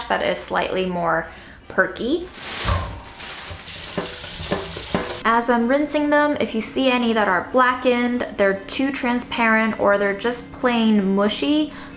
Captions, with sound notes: that is slightly more perky. (rustling sound) (rattling sound) As I'm rinsing them, if you see any that are black end, they're too transparent or they're just plain mushy,